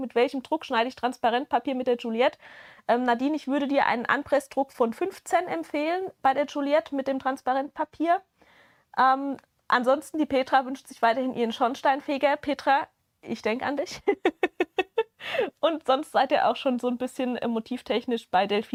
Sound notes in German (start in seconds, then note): 14.0 gelächter